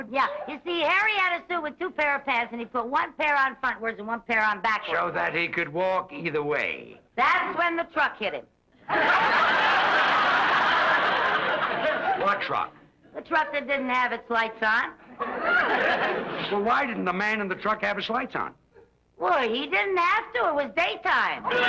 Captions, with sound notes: - Yeah, you see Harry had a suit with two pair of pants and he put one pair on frontwards and one pair on backwards. - So that he could walk either way? - That's when the truck hit him. (audience laughs) - What truck? - The truck that didn't have its lights on. - So why didn't the man in the truck have his lights on? - Well he didn't have to, it was daytime.